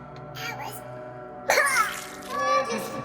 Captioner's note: coughs blood